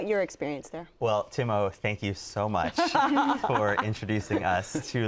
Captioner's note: group laughs